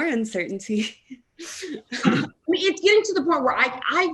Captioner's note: laughing